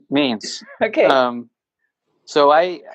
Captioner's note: laughs